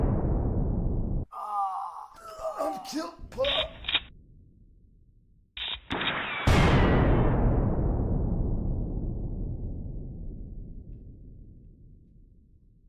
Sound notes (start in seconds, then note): 1.3 man groaning; 6.6 guns firing